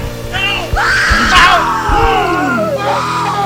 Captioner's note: screams